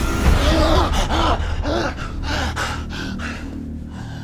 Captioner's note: Nick gasping